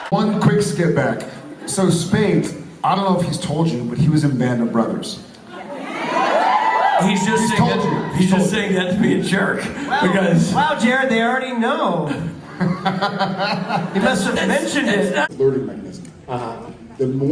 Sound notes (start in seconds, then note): 5.6 audience cheers; 10.1 Rob, feigning surprise; 12.4 Jared chuckles